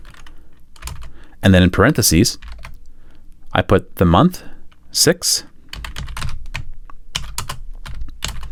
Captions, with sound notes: And then in parentheses, I put the month six, (typing)